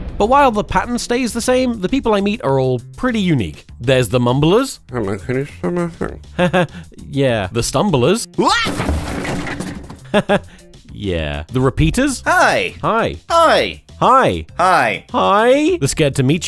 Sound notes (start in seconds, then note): 8.6 crash